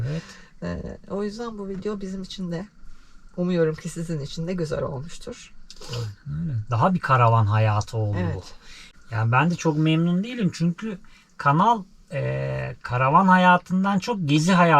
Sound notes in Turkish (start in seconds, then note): 6.0 homurdanır; 7.1 boğazını temizler